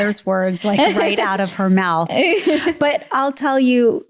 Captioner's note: laughs